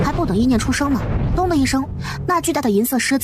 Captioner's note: bang